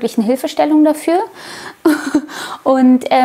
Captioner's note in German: Sie lacht